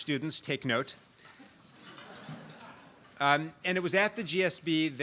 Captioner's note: laugh